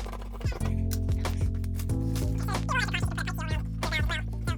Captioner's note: tape fast forwarding